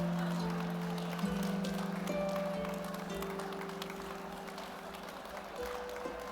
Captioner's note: audience applauding; gentle music